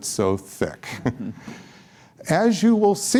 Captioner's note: laughter